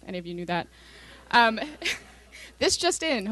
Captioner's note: laughter